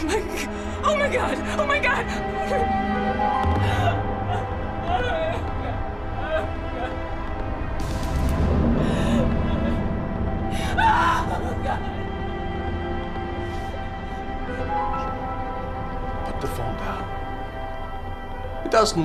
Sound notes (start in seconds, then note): 3.6 Kate crying; 10.9 Kate screaming